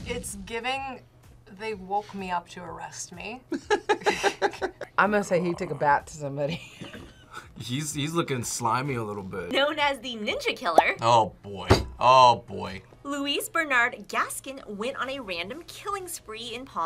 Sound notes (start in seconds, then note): 3.5 both laugh; 7.2 laughs